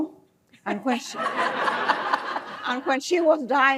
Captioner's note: laughter